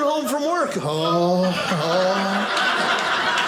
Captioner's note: groaning; audience laughing